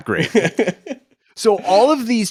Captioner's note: chuckles